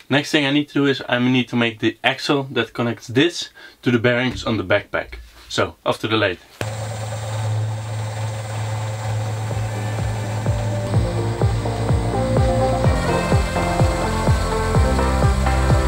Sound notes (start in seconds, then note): 7.5 motor humming; 10.7 soaring electronic music